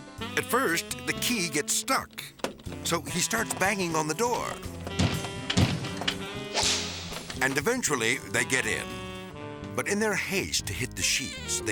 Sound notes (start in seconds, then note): 4.6 fist on door pounding; 6.2 whip cracks